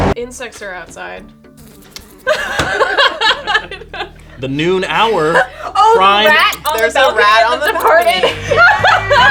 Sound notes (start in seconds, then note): 2.2 laughing